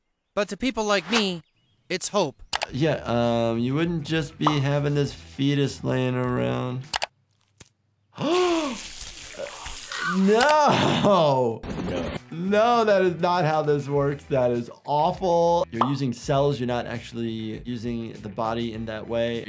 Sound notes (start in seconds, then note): 8.2 gasps; 8.4 slurps